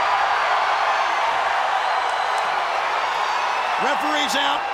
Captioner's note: crowd cheers